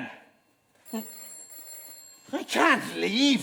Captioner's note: ringing continues